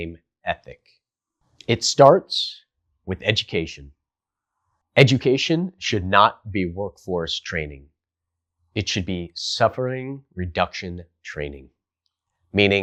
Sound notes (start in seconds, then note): 1.1 beat